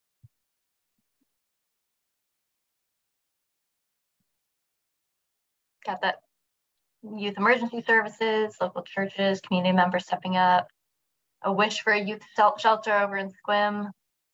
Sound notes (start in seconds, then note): 1.4 silence